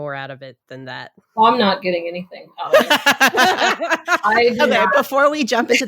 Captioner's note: all laugh